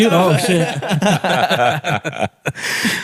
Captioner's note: all laughing